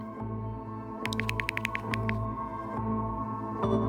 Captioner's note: typing